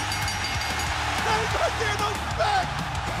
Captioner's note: bell ringing